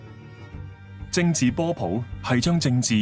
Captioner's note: Cantonese